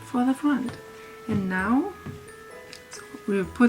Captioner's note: none